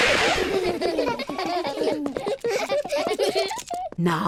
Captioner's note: all laugh